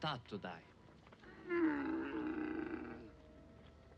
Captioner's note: camel groans